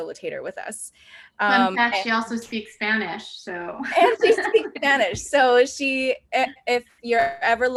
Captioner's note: laughs